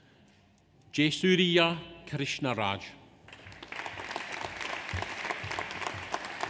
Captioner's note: audience applauds